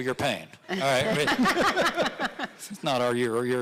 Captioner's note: audience laughing